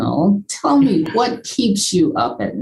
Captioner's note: chuckles